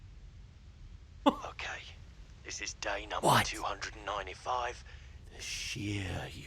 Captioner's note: Australian accent; gasps